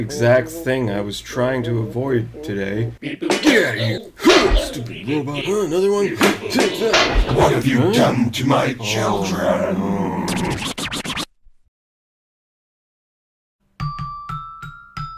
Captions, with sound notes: This is the exact thing I was trying to avoid...today. Take that! (beep boop) HMPH! (robot in pain) ??? :WHAT HAVE YOU DONE TO MY CHILDREN (robot voice)